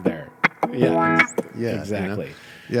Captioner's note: beat boxing